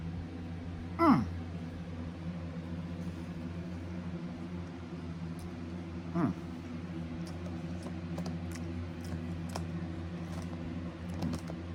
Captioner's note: moaning in pleasure